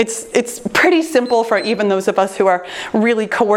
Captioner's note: timer beeps